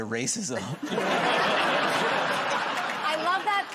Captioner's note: laughter